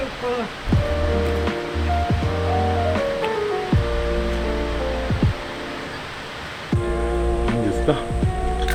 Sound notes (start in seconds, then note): 5.6 haha